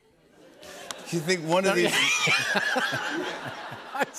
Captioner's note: laughter